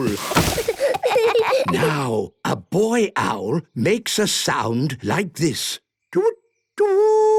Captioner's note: snorting; kids giggling